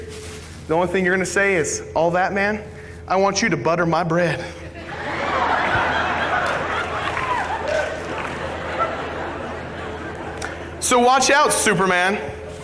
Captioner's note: laughter